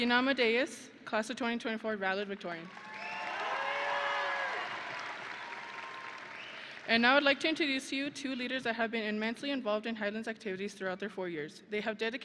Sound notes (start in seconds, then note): 2.7 audience and graduates cheering; 4.9 audience and graduates applauding